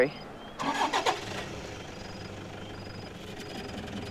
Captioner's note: engine revs